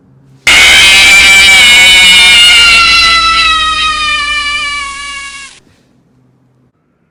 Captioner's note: Luigi Robot Scream